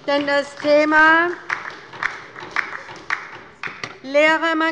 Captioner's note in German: Beifall bei der LINKEN und bei Abgeordneten der SPD